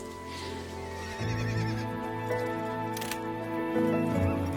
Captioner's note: horse neighing